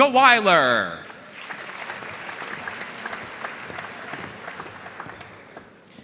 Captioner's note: audience cheering and applauding